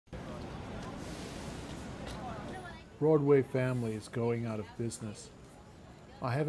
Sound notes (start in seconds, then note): 0.1 people chattering; 0.5 traffic whooshing